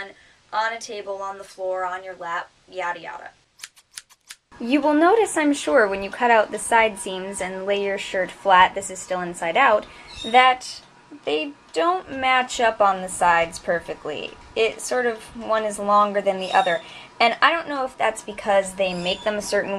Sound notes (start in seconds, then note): 3.6 sound effect: scissors cutting